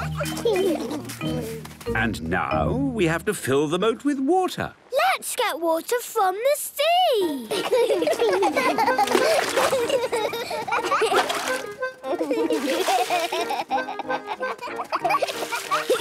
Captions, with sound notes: - And now, we have to fill the moat with water. - Let's get water from the sea! - (excited laughter)